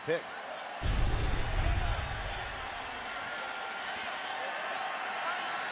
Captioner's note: cheering